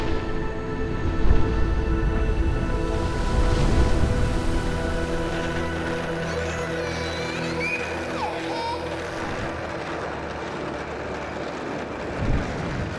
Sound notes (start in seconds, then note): 0.0 inspirational music; 4.1 plastic wheels running on sidewalk; 8.7 shouting with glee